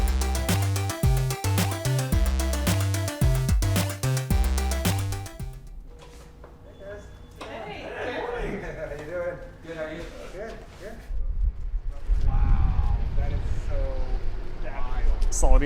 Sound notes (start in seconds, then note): 0.0 upbeat music; 7.0 people chatter